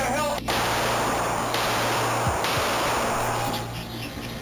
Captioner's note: gunshots firing